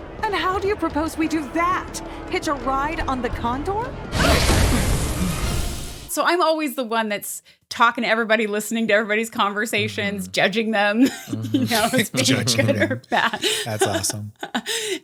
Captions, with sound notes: And how do you propose we do that? Hitch a ride on the condor? So I'm always the one that's talking to everybody, listening to everybody's conversations, judging them. Ya know? [laughs] Judging them. That's awesome.